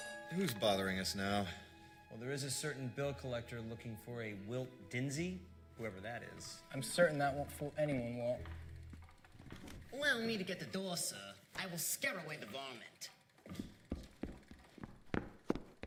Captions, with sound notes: ( DOOR BELL RINGS ) Who's bothering us now? Well, there is a certain bill collector looking for a Wilt Dinsey... whoever that is. I'm certain that won't fool anyone, Walt. Allow me to get the door, sir. I will scare away the varmint.